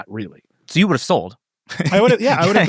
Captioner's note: laughs